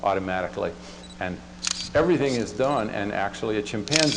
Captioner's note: camera clicks; camera clicks